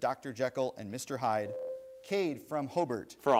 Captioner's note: bell rings